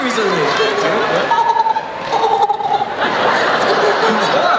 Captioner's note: squirrel chattering